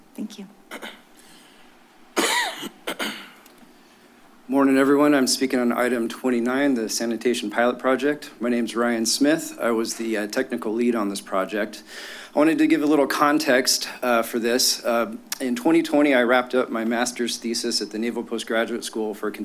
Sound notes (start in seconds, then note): 2.1 coughs; 2.2 clears throat